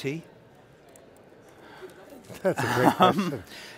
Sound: laughing

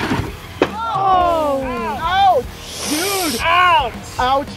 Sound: oooh-ing and groans

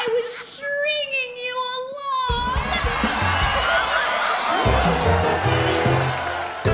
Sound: whimsical music; audience laughing; audience clapping, cheering

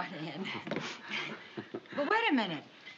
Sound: chuckles

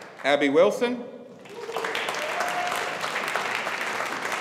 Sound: audience applauding

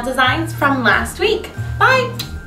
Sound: kisses

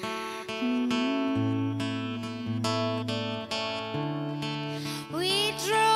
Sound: singer humming melodically

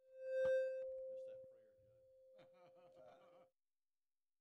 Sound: audio feedback

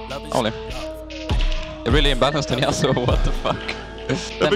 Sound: laughing

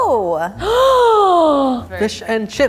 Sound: gasps

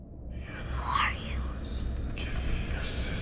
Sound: deep Whisper; child's Whisper; deep Whisper

